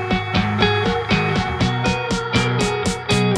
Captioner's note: clap